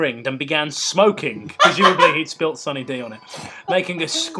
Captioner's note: laughter